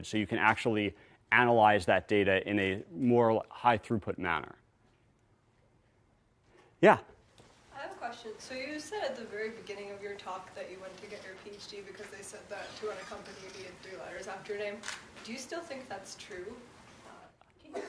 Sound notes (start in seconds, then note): 7.9 voiceover